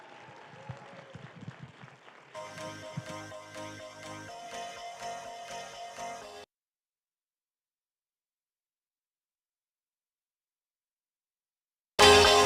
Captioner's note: applause